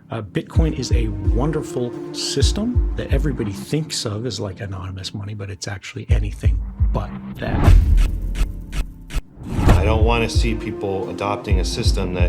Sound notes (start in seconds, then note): 7.6 transition clicks; 7.9 suspenseful music